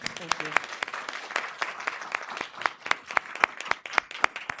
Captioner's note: applause